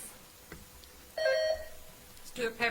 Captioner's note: bell ringing